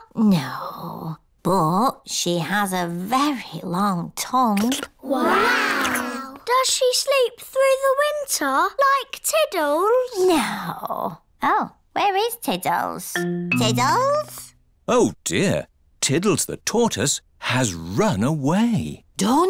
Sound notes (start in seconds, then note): none